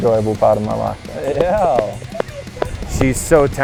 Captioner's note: cheers